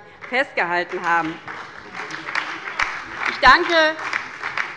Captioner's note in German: Beifall bei der LINKEN und der SPD